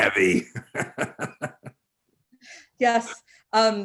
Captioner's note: chuckles